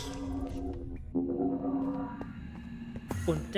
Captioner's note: gate closes; gate opens